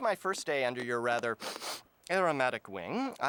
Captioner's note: sniffing